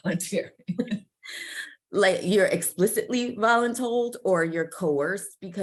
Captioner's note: laughs